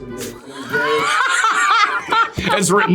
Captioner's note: Priyanka laughing